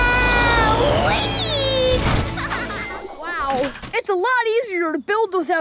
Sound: laughing

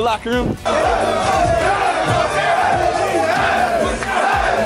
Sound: team cheering

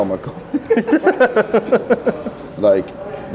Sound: laughing

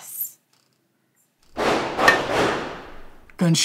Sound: gunshots

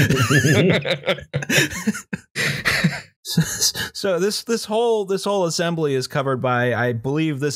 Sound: laughter

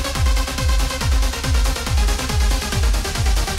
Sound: none

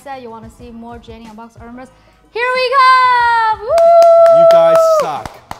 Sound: cheering

